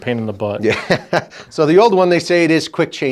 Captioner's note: laughs